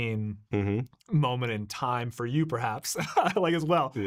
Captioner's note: chuckling